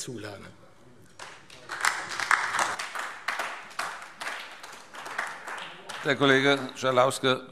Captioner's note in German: Beifall AfD